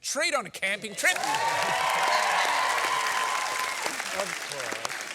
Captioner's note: cheering and applause